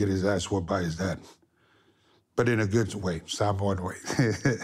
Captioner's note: laugh